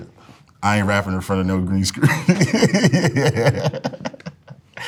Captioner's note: laughs